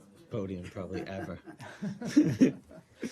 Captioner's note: laughter